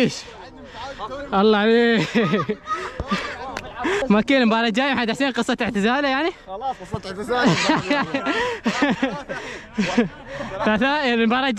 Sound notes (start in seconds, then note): 7.3 laughing